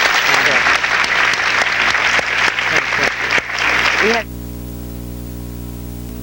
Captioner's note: audience applause; speaks faintly